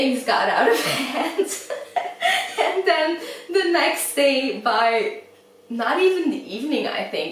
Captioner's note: laughs